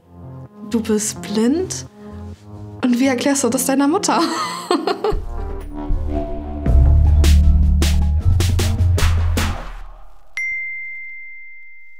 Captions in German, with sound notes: Du bist blind. Und wie erklärst du das deiner Mutter? (Dröhnende Musik) (Klingeln)